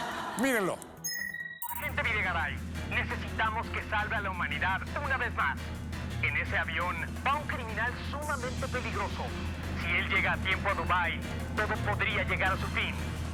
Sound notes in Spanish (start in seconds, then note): 0.0 risas; 1.6 por teléfono